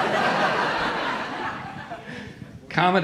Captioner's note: audience laughing